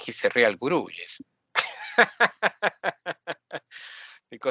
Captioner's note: laughing